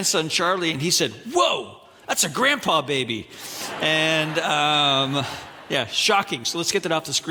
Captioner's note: audience laughing